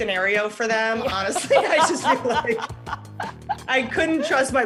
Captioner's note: laughter